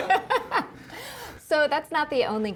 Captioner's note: laughing